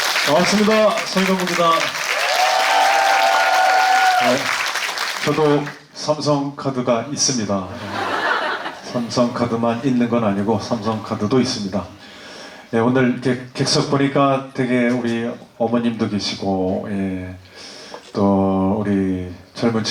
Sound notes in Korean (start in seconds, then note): 2.2 박수; 2.2 환호